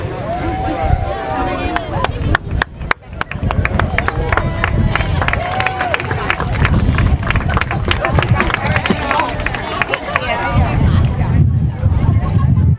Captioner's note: applause